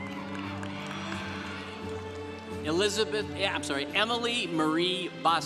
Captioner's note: congregation cheering